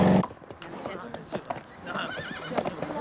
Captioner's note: chattering and horse neighing